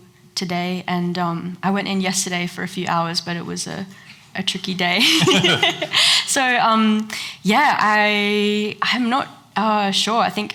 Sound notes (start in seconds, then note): 5.0 laughs